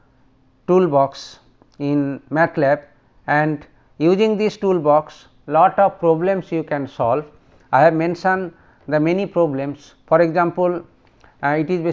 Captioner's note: fuzzy